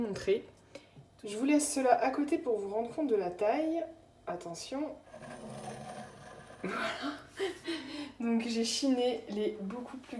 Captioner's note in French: rire